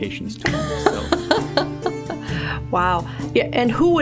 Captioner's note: laughing